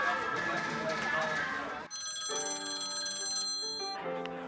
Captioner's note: phone ringing